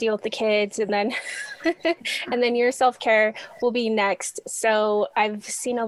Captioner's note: laughs